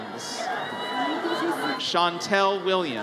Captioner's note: audience cheers